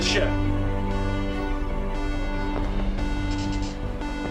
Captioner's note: alarm beeps